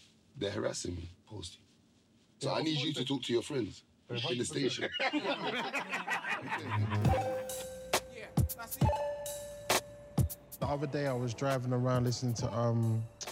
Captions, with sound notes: They're harassing me, Posty. So I need you to talk to your friends in the station. (laughing) (hip-hop music) - The other day I was driving around listening to, um...